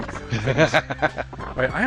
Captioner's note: laughing